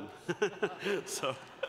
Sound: laughter

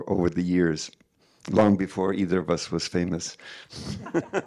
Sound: laughing

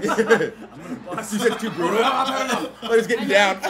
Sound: laugh

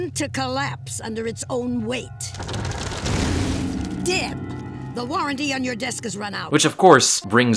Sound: desk breaks

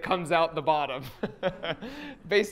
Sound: laughs

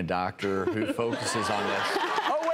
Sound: panelist laughs; audience laughing

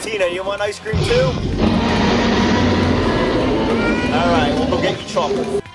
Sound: dinosaur roars

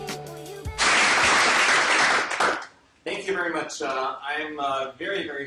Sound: applause

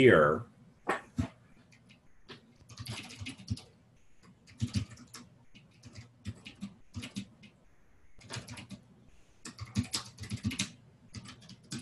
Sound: typing

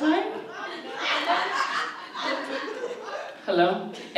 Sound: audience laughs

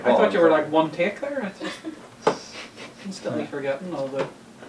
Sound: laughing

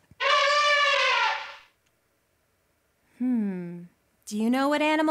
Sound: elephant trumpets

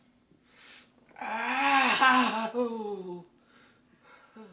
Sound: Rob moaning

